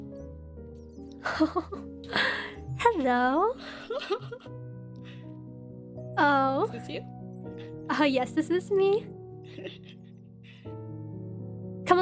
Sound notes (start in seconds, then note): 3.6 ASTORIA laughs; 3.6 laughs, gasps; 9.5 ASTORIA giggles